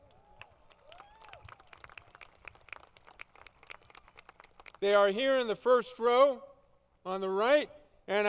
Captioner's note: applause